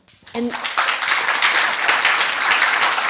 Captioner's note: applause